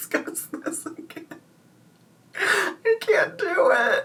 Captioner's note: laughing